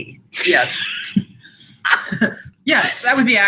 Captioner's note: laughs